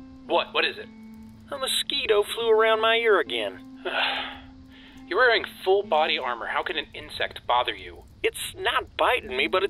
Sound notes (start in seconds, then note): 3.8 sigh